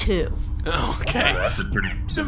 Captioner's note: laughing